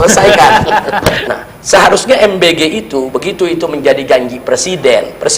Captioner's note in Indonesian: tertawa